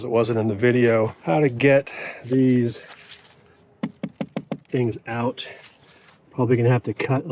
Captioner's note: taps vehicle